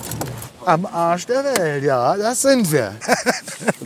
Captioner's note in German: Lachen